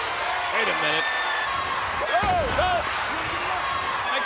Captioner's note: applause